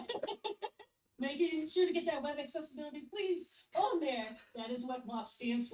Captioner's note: laughs